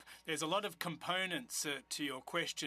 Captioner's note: speaking French